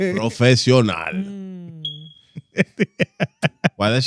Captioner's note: laughter